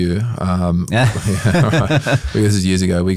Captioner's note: both chuckle